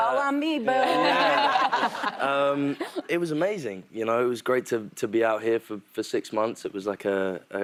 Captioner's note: laughter